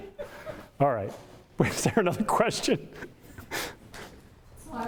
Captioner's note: audience laughter; chuckles